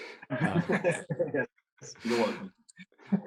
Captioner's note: all chuckle